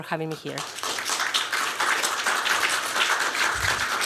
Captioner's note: applause